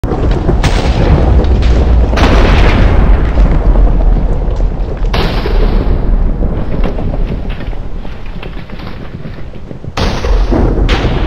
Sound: thunder Strikes

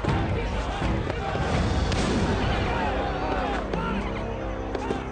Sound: shot cracks

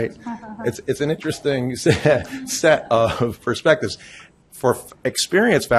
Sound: chuckles

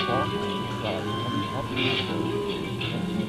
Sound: buzzer

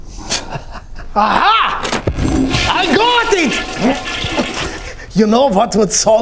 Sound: toilet flushing

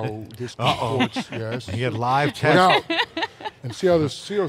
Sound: laughs

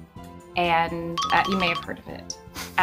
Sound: cartoon noise

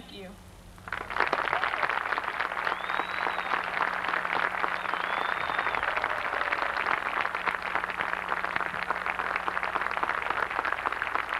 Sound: applause

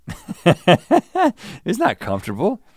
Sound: laughs

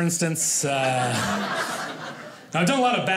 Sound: audience laughing

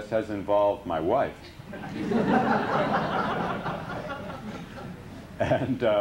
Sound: laughter

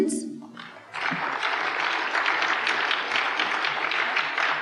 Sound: applause

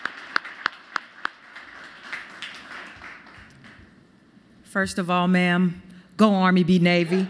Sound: applause

